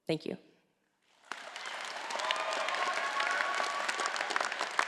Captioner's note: all applauding